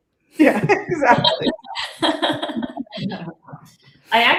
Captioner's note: laughter